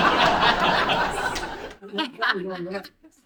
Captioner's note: laughter